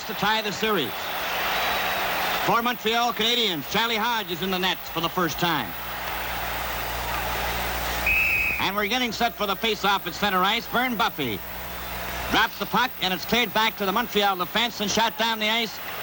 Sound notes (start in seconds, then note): 7.9 whistle blows